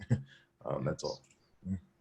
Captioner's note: laughing